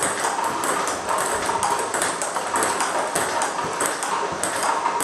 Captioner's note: ball ping pong hitting continues